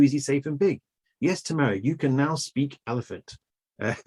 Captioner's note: laughs